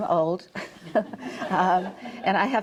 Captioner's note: audience chuckling